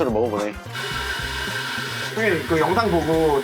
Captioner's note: grinding starts